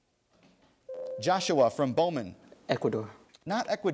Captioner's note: ding